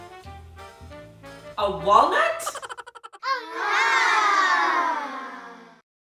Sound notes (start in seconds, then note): 2.9 children sighing